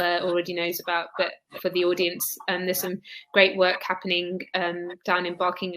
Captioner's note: erm